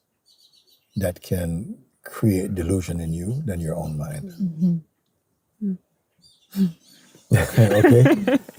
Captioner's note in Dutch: gelach